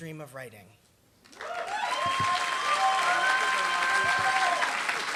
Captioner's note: applause